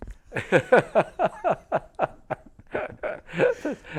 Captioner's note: laughter